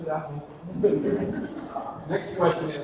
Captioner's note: audience laughs